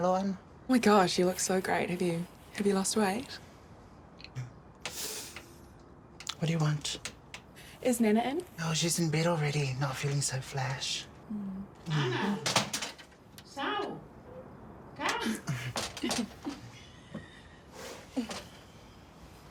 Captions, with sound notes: - Oh my gosh, you look so great. Have you lost weight? - (SIGHS) What do you want? - Is Nana in? - Oh, she's in bed already — not feeling so flash. - Ana, sau! Come! - (CHUCKLES) - (SCOFFS)